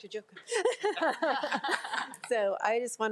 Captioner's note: board of trustees laugh